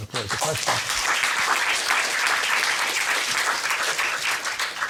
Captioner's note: applause